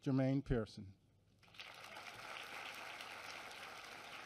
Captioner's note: applause